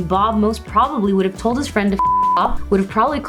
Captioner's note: beep